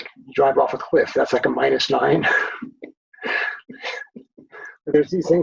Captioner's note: both laughing